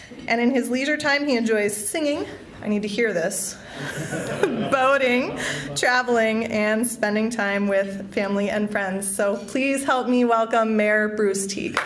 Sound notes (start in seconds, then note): 3.7 laughter